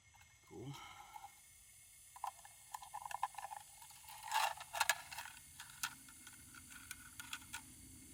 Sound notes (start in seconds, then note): 0.5 sighing; 0.7 clicking